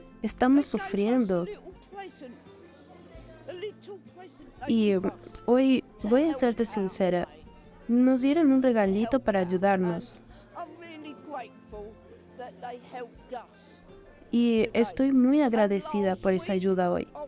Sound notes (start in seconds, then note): 1.5 Hablando idioma extranjero; 10.3 Hablando idioma extranjero